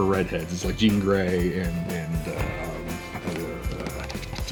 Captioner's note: murmurs